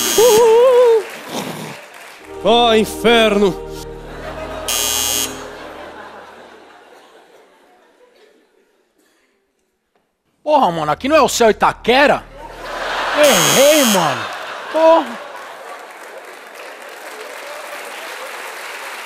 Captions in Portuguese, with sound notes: [campainha] Ah, inferno! [campainha] Aqui não é o CEU Itaquera? Errei, mano! [campainha]